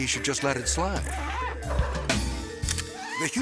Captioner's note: slippery metal squeaking